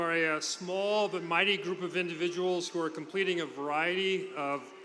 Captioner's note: cheers and applause; people screaming